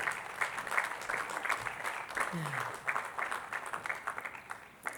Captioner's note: attendees clapping